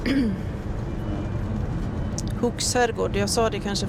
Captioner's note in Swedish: harklar sig